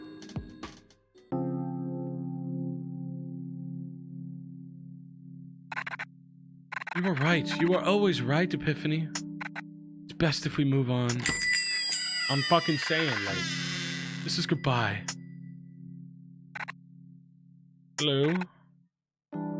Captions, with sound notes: (pensive music) "You were right. You were always right, Epiphany. It's best if we move on." I'm fuckin' sayin', like. (door creaks, bell dings) "This is goodbye." "Hello."